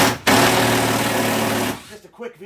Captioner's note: drill whirring